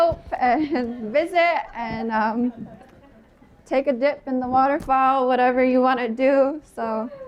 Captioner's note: laughter